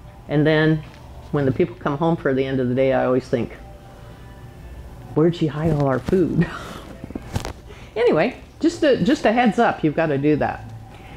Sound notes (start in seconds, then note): 7.1 chuckles